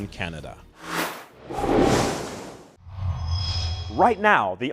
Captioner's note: sound Effects